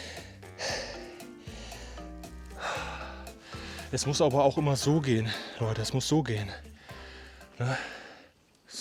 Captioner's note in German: seufzt